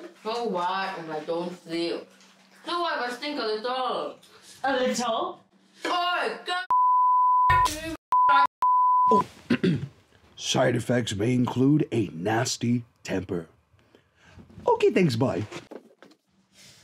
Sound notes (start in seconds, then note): 9.4 clears throat